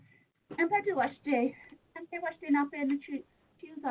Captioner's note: speaking Lakota